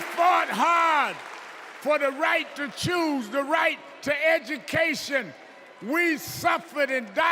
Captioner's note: cheers and applause